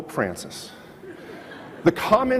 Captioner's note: audience laughs